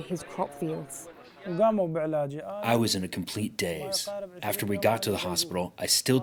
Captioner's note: through translator